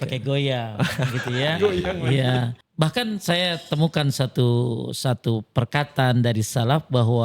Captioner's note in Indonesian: tertawa